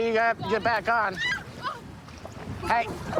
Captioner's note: screaming